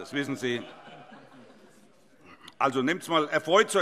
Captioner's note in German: Vereinzelte Heiterkeit